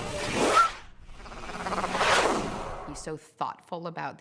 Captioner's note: whooshing